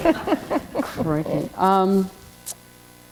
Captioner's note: laughter